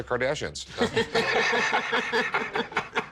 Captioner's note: laughter